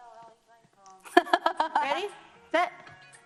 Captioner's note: laughs